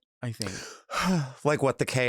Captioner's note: sighs